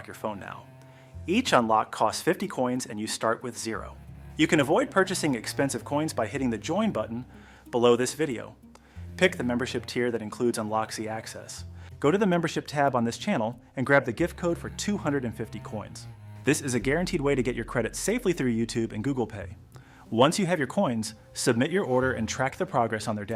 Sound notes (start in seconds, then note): 8.5 speak with a cautionary and serious tone